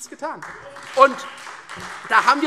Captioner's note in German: Beifall Freie Demokraten und SPD